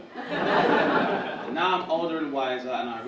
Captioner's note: audience laughing